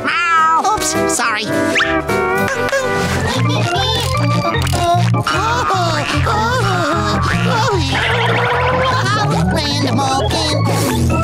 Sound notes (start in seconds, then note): 4.7 giggling